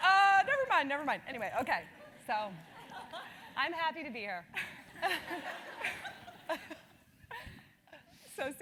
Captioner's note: laugh